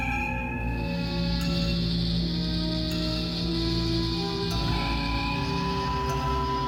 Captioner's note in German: Transportersummen